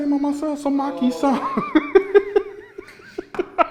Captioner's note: laughing